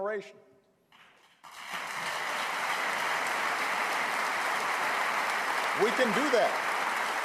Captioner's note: applause